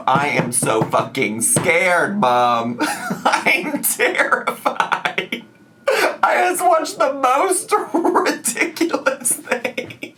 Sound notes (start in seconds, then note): 2.8 laughing